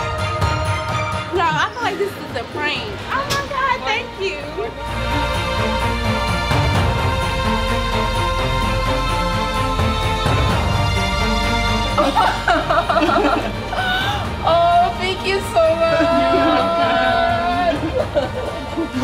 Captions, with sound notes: Y'all, I feel like this is a prank. Oh my god, thank you. [UPLIFTING MUSIC] [LAUGHS] Oh, thank you so much. You're welcome.